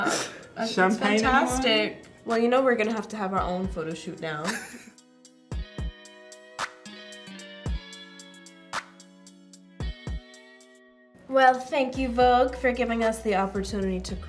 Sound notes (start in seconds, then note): 4.4 chuckles; 5.5 funky techno music